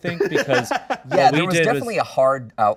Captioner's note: host laughs